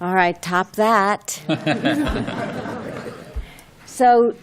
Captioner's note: laughter